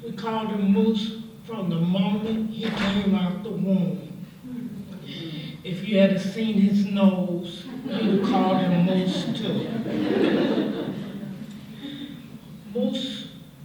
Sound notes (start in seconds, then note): 11.7 laughter